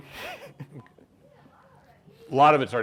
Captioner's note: laughing